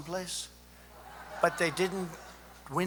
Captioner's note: laughter